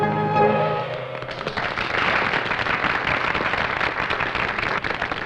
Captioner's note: applause